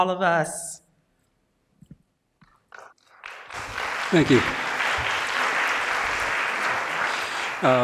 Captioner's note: applause